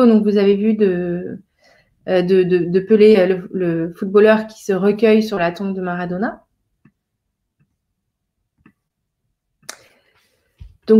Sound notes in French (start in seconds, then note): 6.6 silence